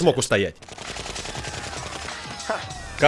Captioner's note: <i>automatic weapon firing</i>